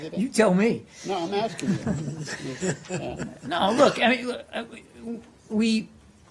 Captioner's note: laughter